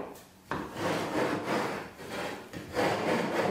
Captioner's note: muffled grinding noise